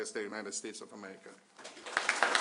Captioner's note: applause